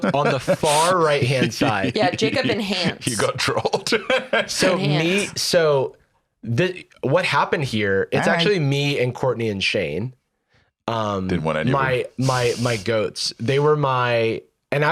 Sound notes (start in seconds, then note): 4.2 laughs